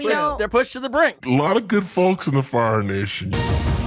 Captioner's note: warped voice; intriguing music